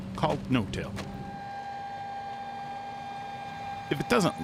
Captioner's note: machinery whirring